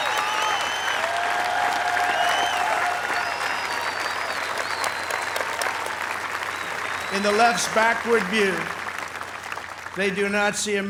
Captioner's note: applause